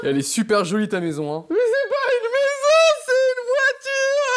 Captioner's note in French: En pleurant